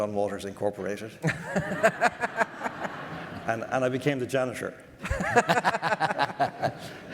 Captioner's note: audience laughter